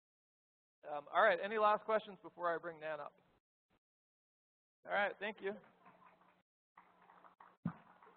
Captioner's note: applause